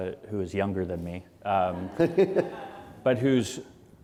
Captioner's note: laughter